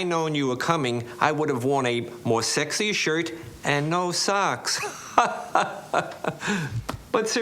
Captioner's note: chuckles